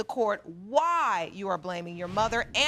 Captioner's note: none